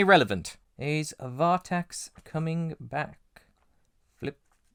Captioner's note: faint sound of pages turning